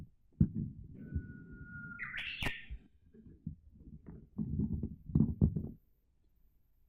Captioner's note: birdcall of Japanese bush warbler